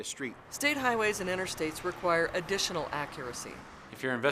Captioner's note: sounds of vehicles driving on road